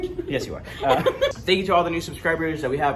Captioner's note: laughing